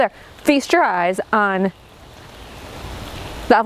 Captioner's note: speaking in foreign language